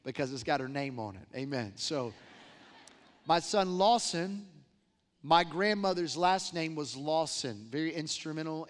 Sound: laughter

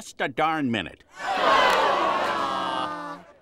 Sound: disappointed moans

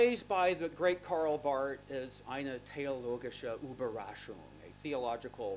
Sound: non-english speech

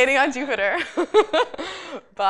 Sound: laughter

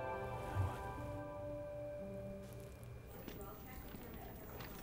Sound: mutters

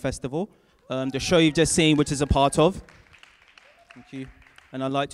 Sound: cheering and applause from audience

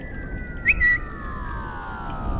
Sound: bird tweet sound

